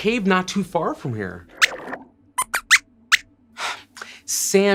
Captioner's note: squeaks squeaks